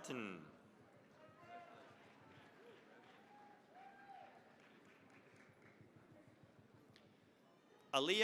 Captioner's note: cheering, applause